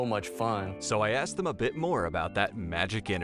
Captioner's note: voiceover